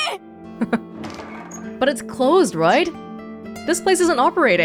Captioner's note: chuckles